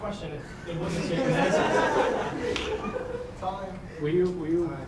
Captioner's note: audience laughing